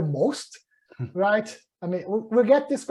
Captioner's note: chuckles